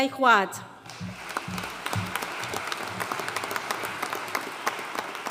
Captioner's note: audience applauding